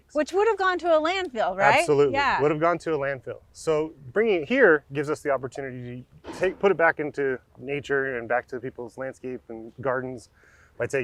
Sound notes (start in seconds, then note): 6.2 excavator arm crashing